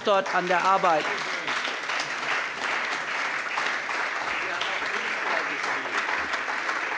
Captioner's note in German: Allgemeiner Beifall